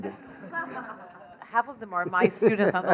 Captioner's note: class laughs